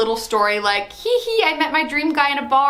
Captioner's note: laughs comically